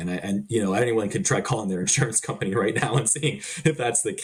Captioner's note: chuckling